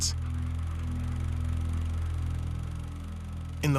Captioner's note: film projector whirring